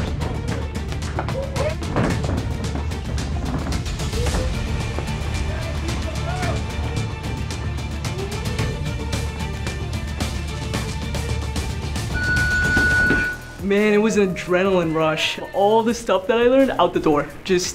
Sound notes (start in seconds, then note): 5.3 crowd cheering; 12.2 round timer sounds